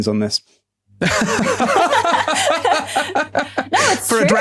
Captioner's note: others laughing